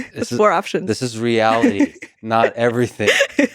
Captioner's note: laughs